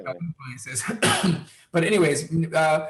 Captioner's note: Wilmer coughs